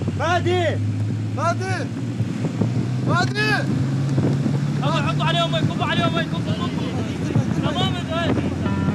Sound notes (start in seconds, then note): 2.6 speaking in foreign language